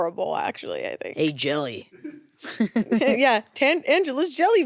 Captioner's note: chuckles